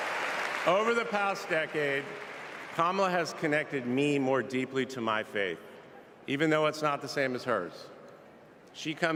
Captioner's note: cheers and applause